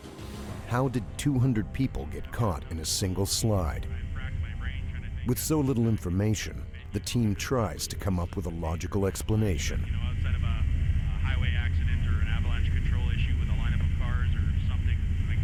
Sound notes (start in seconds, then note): 8.0 voiceover